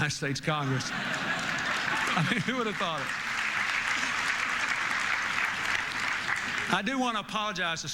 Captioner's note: applause, Laughter